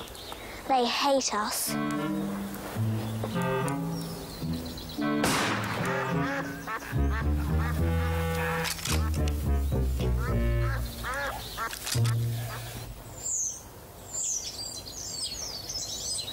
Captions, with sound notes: They hate us. (quirky music) (gun firing)